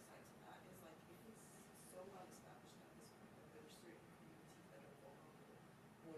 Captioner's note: speaks faintly; speaks faintly